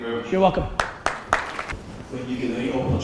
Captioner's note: audience applause